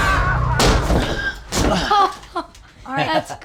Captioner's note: laughs